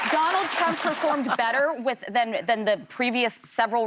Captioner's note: applause